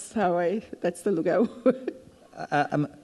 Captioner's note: chuckles